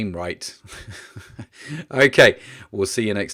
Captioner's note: chuckles